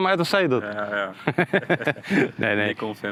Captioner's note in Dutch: gelach